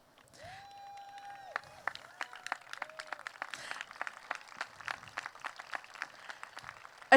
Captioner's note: applause